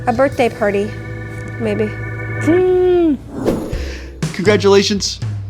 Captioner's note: imitates birthday noisemaker